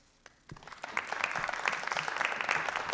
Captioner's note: applause